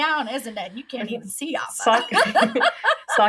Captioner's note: laughing